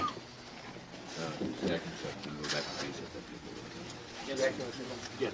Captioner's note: crowd murmuring